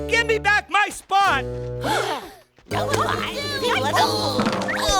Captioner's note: shouts of panic; gasps of surprise